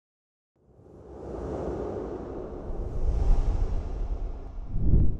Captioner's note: graphics whoosh